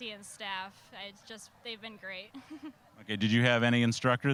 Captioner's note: chuckling